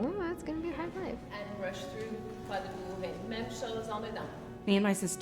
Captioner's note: speaks in foreign language